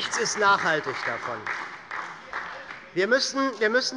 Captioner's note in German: Beifall bei der SPD